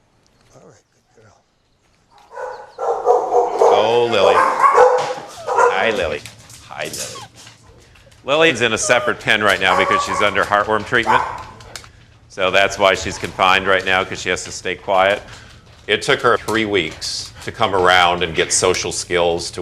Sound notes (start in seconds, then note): 8.0 dogs barking inside; 12.2 barking continues